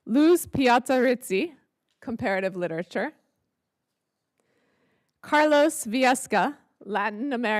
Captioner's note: none